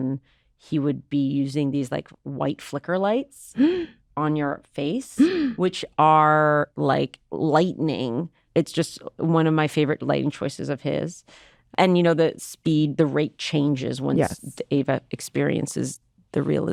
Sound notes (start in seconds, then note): 3.5 hannah gasps